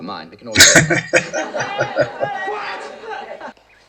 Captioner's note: laughing